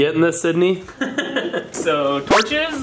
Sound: laughs

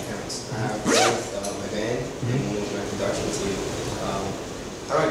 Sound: zipping

